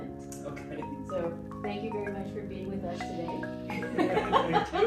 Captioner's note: laughs